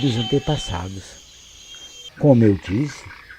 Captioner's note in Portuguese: Coaxo de sapo; Grilos